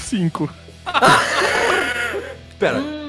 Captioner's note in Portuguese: risos